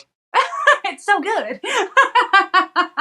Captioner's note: laugh